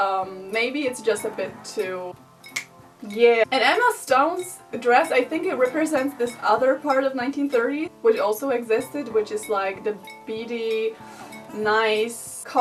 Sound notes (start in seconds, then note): 2.5 snaps